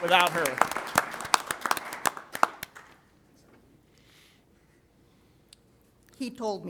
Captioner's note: applause